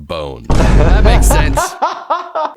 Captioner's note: low bang; laughing